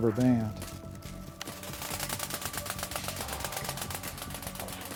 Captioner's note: wings whirring